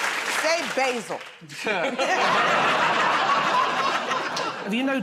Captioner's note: laughter